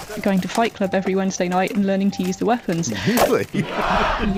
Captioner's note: laughs